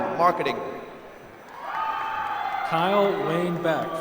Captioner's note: applause